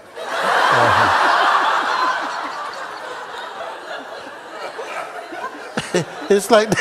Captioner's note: Lautes Lachen